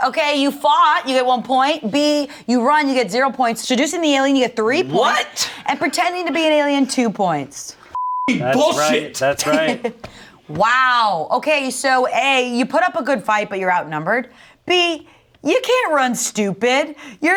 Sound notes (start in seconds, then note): 7.9 beep